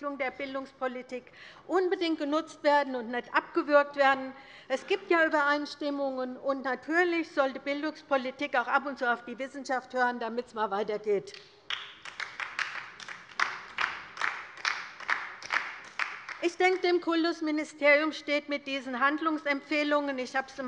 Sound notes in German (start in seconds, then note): 11.6 Beifall bei der LINKEN